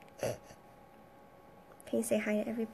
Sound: snickering

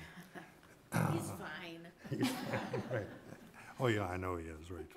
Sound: group laughs

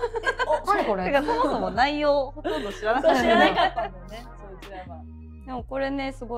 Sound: laughs

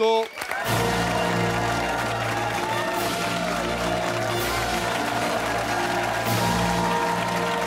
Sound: cheers and applause

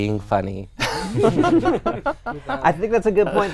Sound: laughing

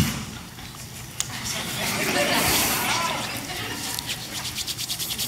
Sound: laughter

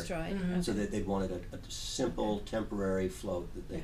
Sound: voiceover

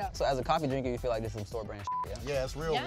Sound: beep

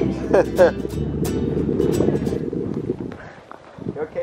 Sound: laughing

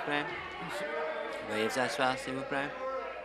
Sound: applause

